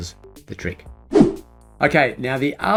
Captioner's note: air whooshing